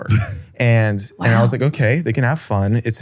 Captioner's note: laughs